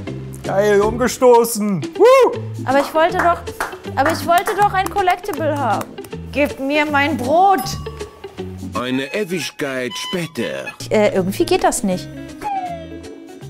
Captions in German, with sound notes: Geil umgestoßen. Whooo! Aber ich wollte doch ... (Klatschen) Ich wollte doch ein Collectable haben. Gebt mir mein Brot! "Eine Ewigkeit später." Äh, irgendwie geht das nicht. (Entspannte Musik)